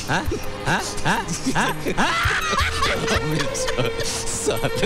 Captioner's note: Laughs